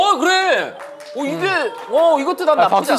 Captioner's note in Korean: 박수갈채